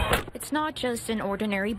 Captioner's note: nats: door shutting